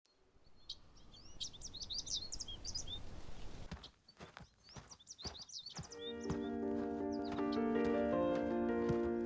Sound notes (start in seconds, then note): 0.7 birds chirping; 3.6 feet crunching; 5.9 lighthearted music